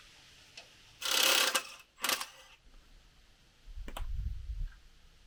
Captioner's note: metal clanging; drill drilling